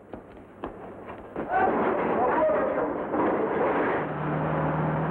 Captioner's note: speaking in foreign language; machinery rumbling; car rumbles